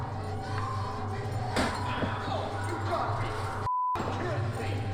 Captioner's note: voiceover